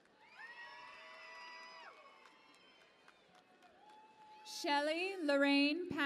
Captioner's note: cheering and Applause